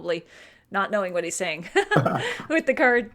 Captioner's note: laughs